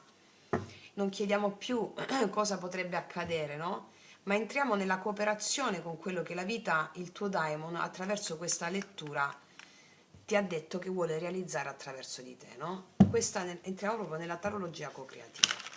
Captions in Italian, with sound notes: non chiediamo più [schiarire la voce] cosa potrebbe accadere, no? Ma entriamo nella cooperazione con quello che la vita, il tuo Diamond, attraverso questa lettura ti ha detto che vuole realizzare attraverso di te, no? Questa entriamo proprio nella tarologia cocreativa.